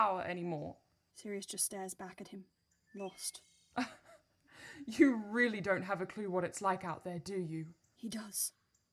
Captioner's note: Regulus laughs